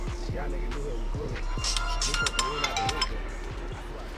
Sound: phone ringing

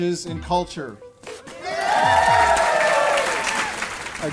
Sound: applause

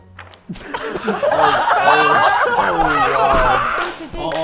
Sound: Sidemen laughing

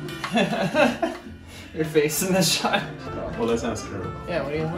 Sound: laughing

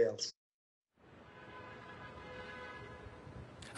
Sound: honking

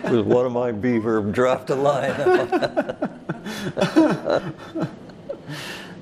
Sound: all laugh

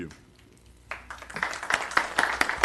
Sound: applause

